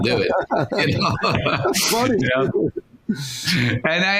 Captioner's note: laughing